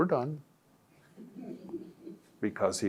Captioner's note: audience laughs